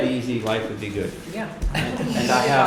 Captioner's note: laughter